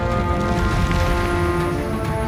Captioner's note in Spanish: Aplastar